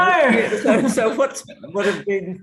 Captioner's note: both laughing